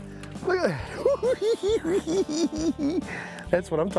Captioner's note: cackling